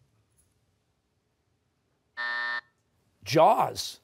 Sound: buzzer

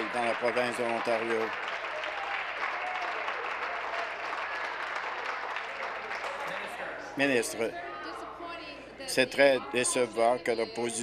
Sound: applause

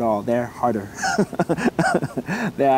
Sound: laughs

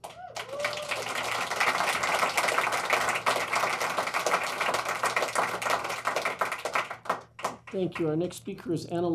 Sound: applause

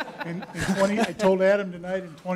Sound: laughter

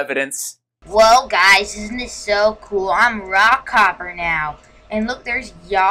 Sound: facetious voice

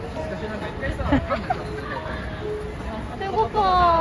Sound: hehehehe

